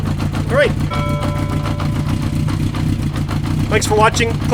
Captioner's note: bell tolls a final time